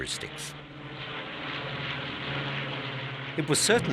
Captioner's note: plane roaring